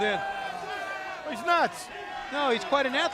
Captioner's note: crowd chatter